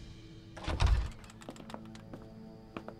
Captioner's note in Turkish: Kapı açıldı